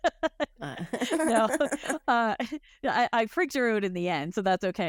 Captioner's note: laughs